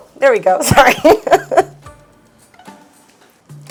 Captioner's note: chuckles